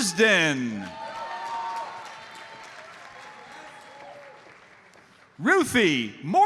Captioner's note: audience cheers and applauds